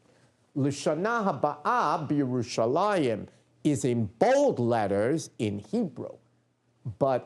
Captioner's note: non-english speech